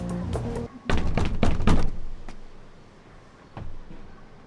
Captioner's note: knocking on door